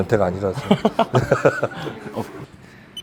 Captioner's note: laughs awkwardly